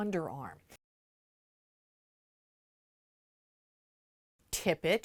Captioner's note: no Sound Present